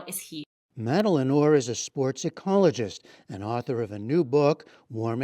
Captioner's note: voice-over